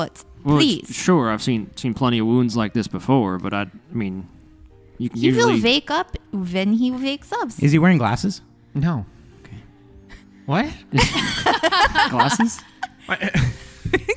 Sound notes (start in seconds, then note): 10.9 laughter